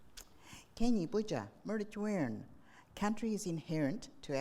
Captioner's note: speaking in foreign language